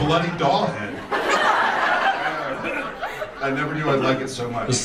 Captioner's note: audience laughs